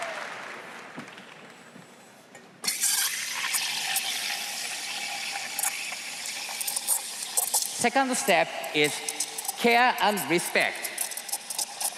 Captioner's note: applause